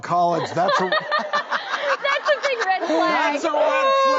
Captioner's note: laugs